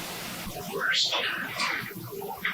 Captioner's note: eerie voice